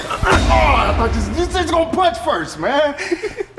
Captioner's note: intense dramatic sound; Spice groans; giggling